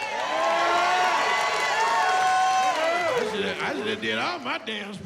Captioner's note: cheering